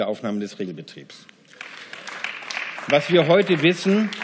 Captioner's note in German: Beifall